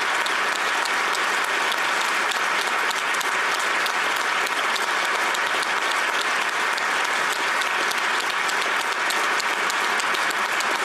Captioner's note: applause